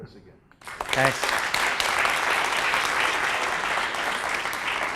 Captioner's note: applause